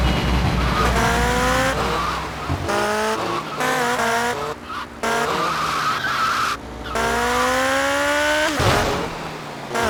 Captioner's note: engine revving